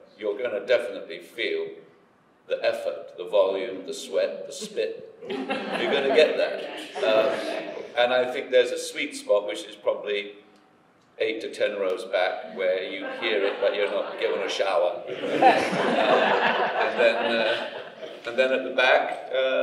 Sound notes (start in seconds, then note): 5.2 audience laughing; 15.5 audience laughing